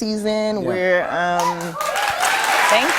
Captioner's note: cheers and applause